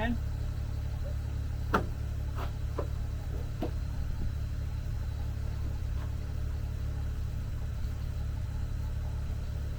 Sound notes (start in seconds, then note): 1.6 board thuds